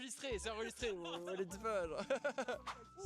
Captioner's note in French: rires